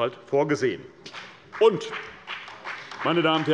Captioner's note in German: Beifall bei Abgeordneten der CDU